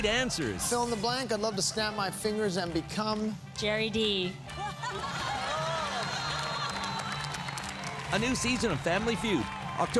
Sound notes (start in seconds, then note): 4.6 laughing; 7.3 applause